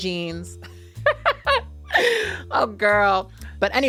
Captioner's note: laughing